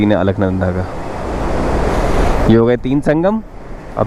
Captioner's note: sound of water gushing down